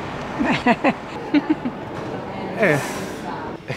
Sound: chuckles

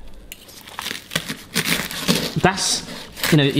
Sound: knife crunching bread

